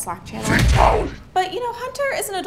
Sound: scary Voice

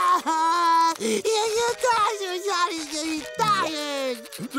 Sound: crying; crying, mumbling

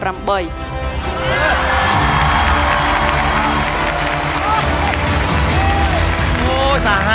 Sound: cheer and applause

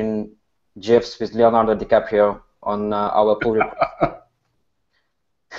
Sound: drowned out by laughing

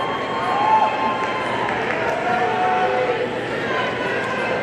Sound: audience cheering

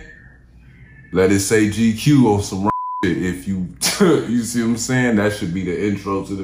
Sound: beeping

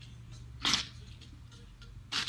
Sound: spits

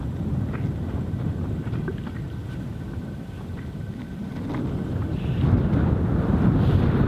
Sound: wind whooshes

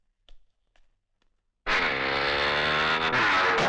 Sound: motorcycles Engine Starting

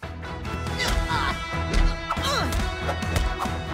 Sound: grunts

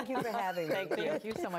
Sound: laughter

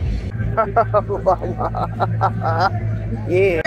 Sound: laughter

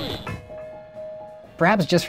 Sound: bell rings

